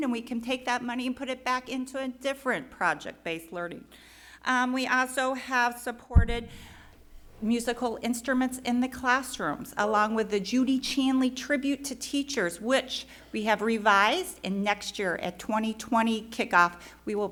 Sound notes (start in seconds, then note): none